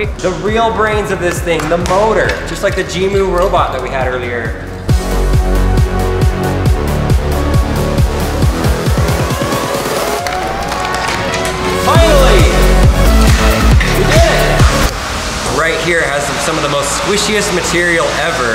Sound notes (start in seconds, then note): 4.6 upbeat electronic music; 10.2 plastic cracking